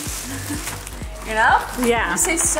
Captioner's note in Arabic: يضحك